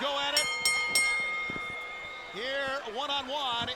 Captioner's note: bell ringing